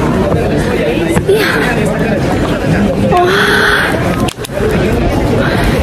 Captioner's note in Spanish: recuperando el aire antes de hablar